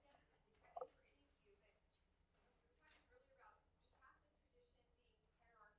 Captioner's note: female speaking off microphone